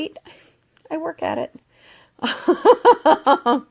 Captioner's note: laughs